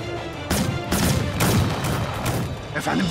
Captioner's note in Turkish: Silah sesleri